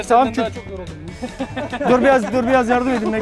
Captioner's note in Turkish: Gülüşmeler